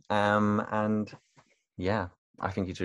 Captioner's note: laughs